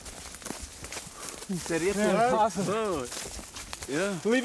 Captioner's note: indistinct chatter